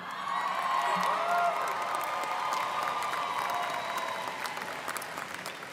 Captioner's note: students cheering and applauding